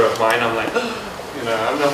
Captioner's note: gasping